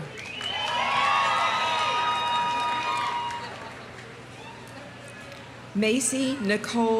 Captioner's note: audience applauding; audience cheering